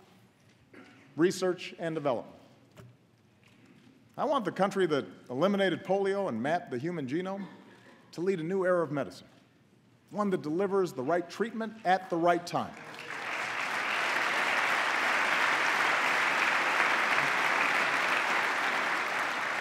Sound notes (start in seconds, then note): 15.1 applause